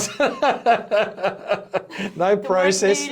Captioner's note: both laughing